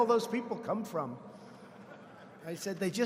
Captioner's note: laughter